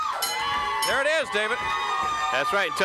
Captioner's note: bell ringing